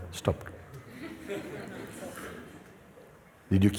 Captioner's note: laughter